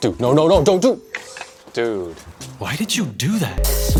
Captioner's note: clacking; trap music